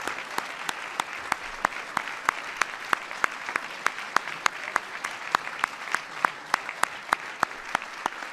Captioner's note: applause